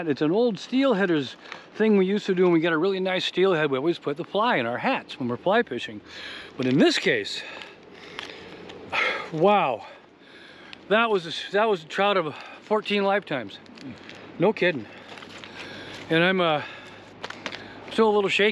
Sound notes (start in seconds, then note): none